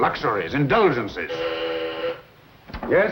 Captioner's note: intercom buzzes